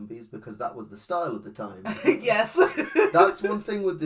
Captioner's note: laughs